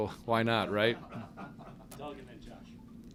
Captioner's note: laughter